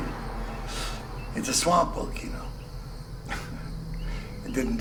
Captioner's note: chuckles